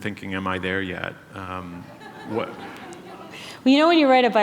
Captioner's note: laughter